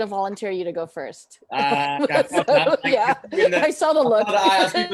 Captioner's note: laughs